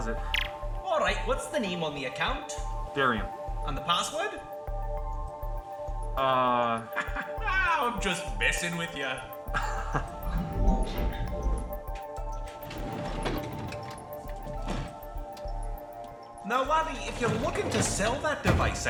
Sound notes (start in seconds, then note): 9.5 laughing; 9.5 chuckle; 12.2 heavy drawer opening